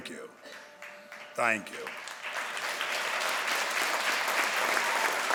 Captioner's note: crowd applauds